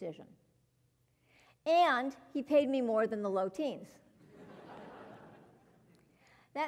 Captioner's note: laugh